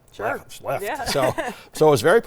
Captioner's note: laughs